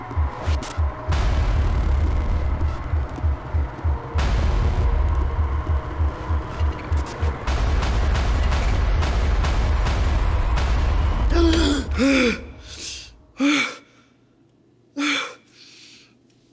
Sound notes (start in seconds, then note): 2.6 intense music continues; 11.7 Alan gasping